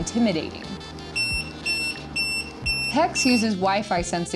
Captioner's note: beep